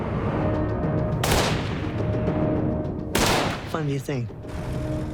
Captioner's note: gunshot